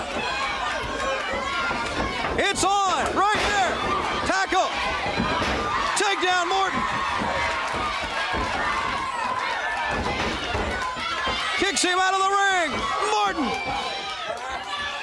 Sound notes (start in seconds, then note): 0.2 crowd chatter; 7.1 crowd chatter